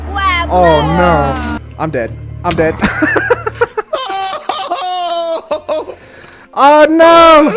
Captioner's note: laughs